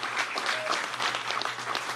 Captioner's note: applause